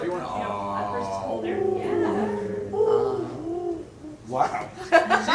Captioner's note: mimics a pigeon